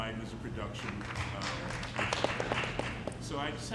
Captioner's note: audience clapping